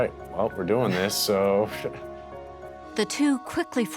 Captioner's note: laughs